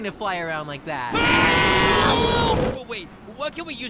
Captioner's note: screaming for help